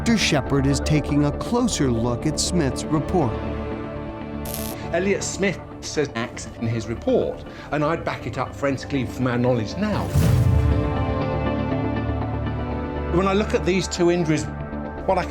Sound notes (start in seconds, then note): 4.4 electric sparking